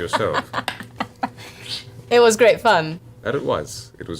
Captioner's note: laughs